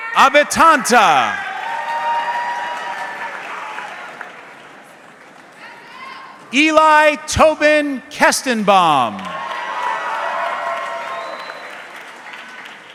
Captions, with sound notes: (audience clapping) Eli Tobin Kestenbaum. (audience clapping)